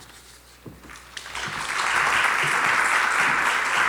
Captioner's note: clapping